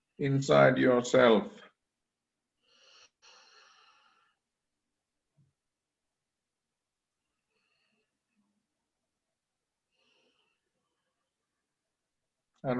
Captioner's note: is inhaling and exhaling